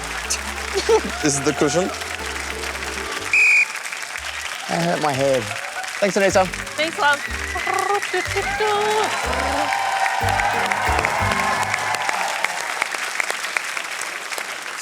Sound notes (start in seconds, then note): 3.0 blows whistle; 6.3 hums; 9.1 cheering, applause